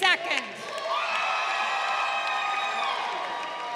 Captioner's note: crowd cheering